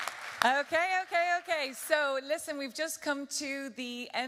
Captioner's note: applause